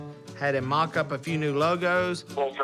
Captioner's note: on phone